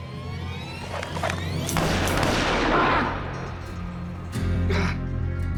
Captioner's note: gunshot fired, mr. gates groans